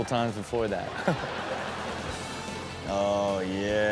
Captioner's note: Steelo and audience laughing